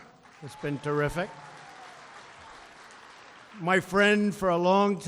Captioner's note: applause